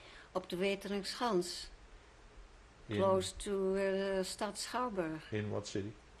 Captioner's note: speaking dutch